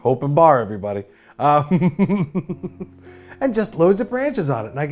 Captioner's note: chuckles